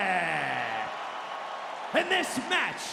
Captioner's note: crowd cheers